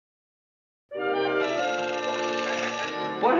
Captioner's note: phone rings